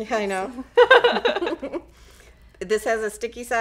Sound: laughing

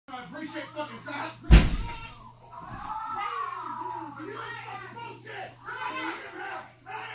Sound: muffled yelling

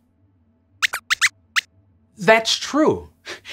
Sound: squeaks squeaks

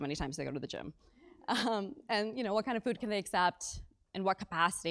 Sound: laugh

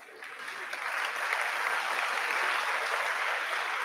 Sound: audience applauding

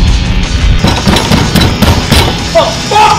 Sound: banging on door

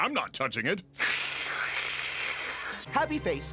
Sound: platypus hissing

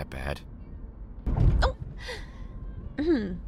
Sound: yelp

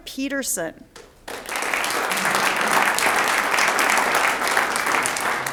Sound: audience applauds

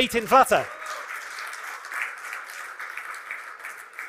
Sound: applause

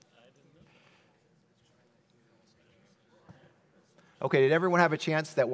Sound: audience chattering

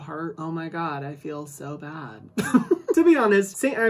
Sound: laughs

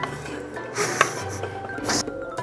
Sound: laughing

